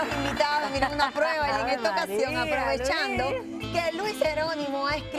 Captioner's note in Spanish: aplausos